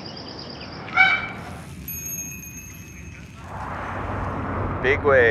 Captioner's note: birds; goose honk; bike Bell